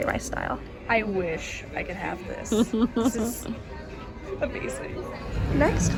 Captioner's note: laughing